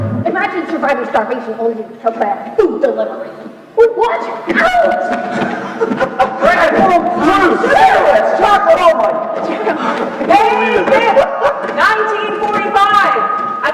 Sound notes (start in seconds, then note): 5.4 Opa laughing; 9.2 laughing